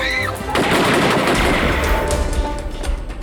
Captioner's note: screams; firing continues